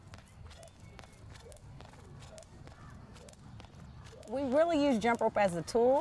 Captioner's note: jump rope whooshing